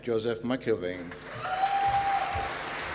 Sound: applause

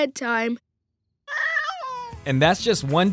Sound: meowing

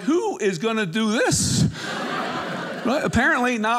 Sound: audience laughing

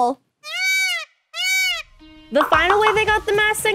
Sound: peacock squawking

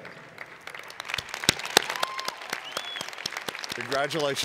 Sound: cheers and Applause

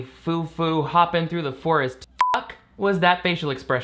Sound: beep

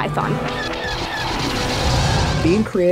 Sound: blaster sounds

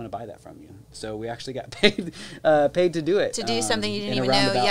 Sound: chuckles

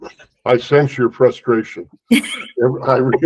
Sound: laughter

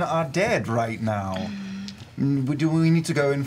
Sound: sighs

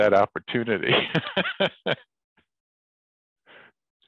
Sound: laughs

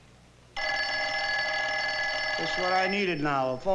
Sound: phone rings

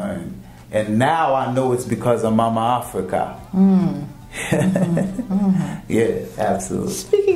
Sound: laughing

